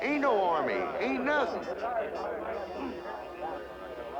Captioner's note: people chattering